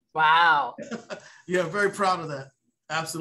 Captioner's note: laughs